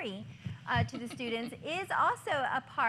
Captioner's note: laughter